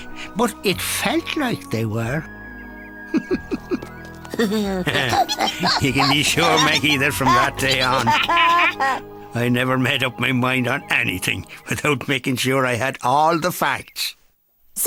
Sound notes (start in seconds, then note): 3.1 laughing